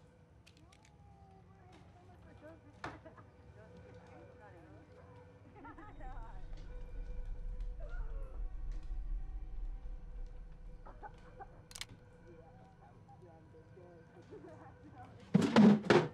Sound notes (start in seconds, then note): 2.2 distant chatter; 5.4 laughter, chatter continues